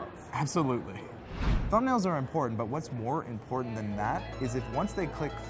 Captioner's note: whoosh